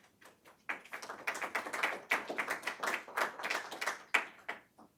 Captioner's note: audience applauds